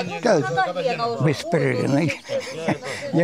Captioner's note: shelling